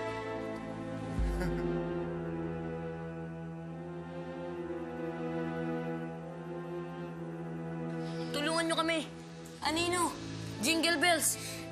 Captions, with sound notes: [Putol chuckles] Help us, Shadow, Jingle Bells.